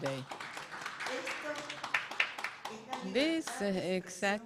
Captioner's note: audience applauding